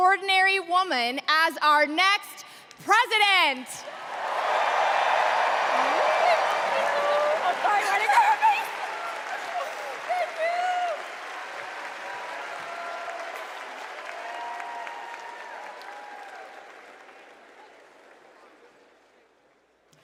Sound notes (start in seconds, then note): 5.6 cheers and applause